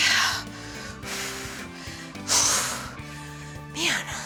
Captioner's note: exhaling